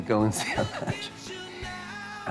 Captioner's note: laughter